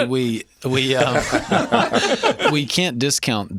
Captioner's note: laughter